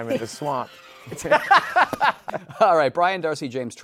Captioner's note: laughs